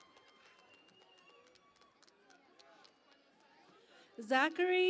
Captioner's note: cheering and Applause